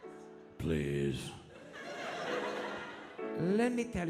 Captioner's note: audience laughing